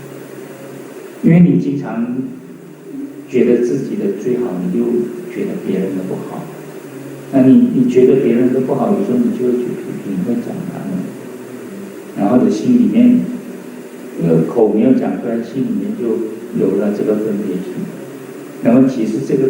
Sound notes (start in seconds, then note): 9.4 in arrogance